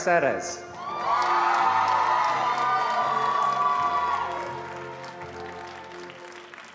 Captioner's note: attendees cheering and applauding